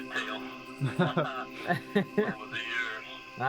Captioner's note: laughter